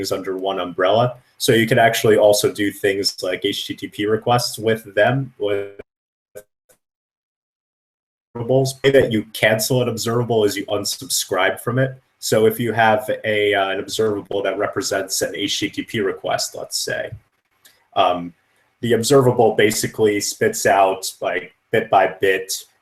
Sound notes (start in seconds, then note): 5.6 static